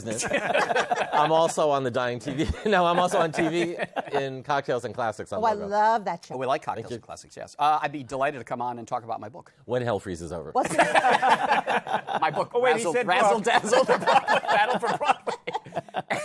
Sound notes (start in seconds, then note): 0.1 chuckles; 10.6 laughter